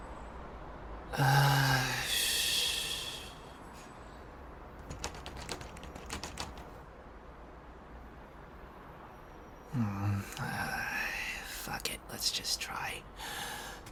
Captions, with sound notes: [sighing and humming to self] [door handle jiggles again] ...aaah fuck it, let's just try...